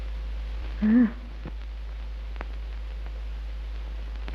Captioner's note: mother moans